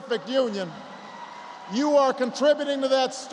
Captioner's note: applause